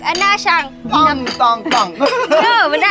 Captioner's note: slamming with sound; everyone laughing